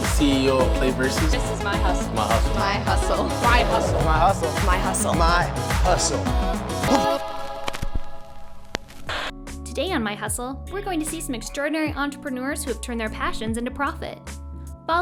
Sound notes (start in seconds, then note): 3.1 in Unison; 8.3 static crackling; 9.0 static buzzing